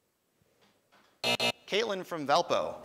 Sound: time buzzer

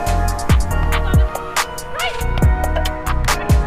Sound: players communicating

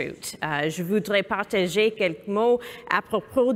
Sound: speaking french

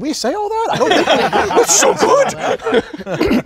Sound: all laughing

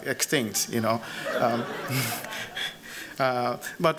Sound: laughter

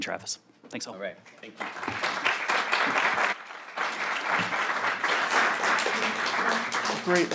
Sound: applause

